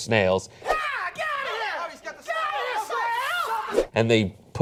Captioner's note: screaming